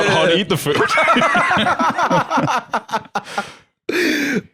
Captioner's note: all laughing